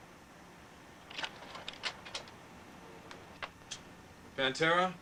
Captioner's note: slide projector clicking